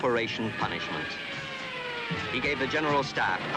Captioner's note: airplane screaming